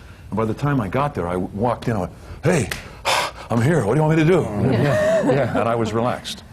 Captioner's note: puffs